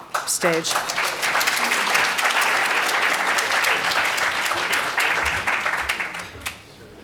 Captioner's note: audience clapping